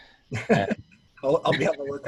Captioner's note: laughing